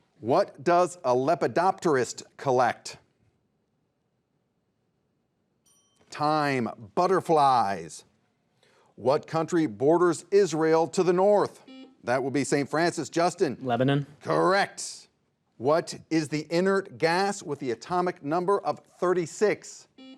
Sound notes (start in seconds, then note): 5.6 bell dings; 11.6 buzzer beeps